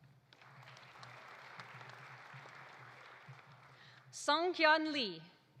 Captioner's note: audience applauding